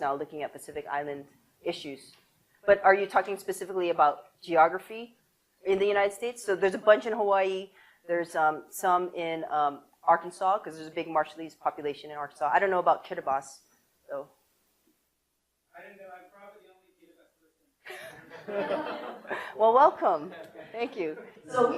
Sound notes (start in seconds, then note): 17.9 audience laughs